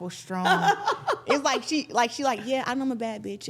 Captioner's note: laughing